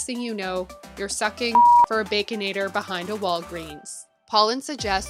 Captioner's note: beep